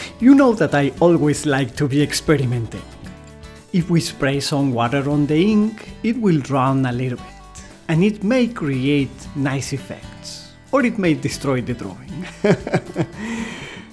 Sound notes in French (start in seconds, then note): 12.2 rires